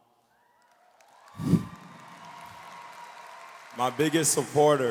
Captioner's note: audience cheers and applauds